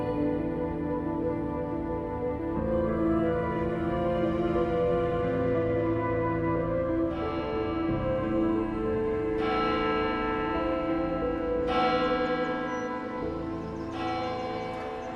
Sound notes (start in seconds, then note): 6.7 church bell chiming